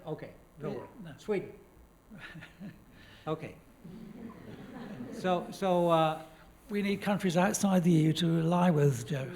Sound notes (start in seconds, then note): 3.9 laughs; 3.9 laughter